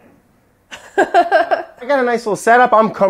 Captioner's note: laughing